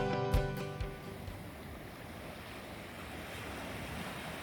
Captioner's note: waves crashing on the beach